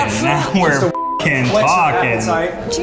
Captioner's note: beep